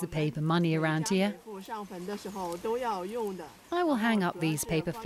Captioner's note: speaking in foreign language